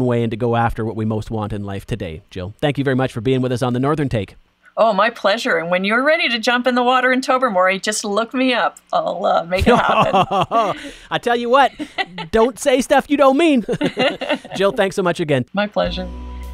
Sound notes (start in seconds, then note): 9.5 laughs; 15.8 upbeat music